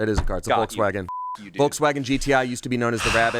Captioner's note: beep